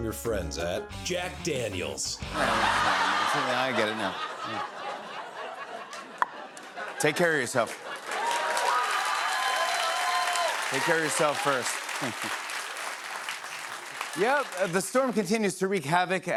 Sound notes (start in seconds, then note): 7.6 cheers and applause